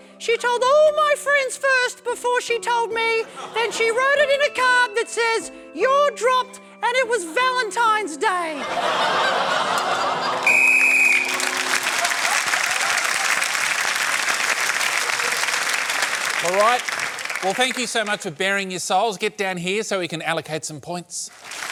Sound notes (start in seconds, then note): 8.5 laughter and groaning; 10.4 applause; 10.4 blows whistle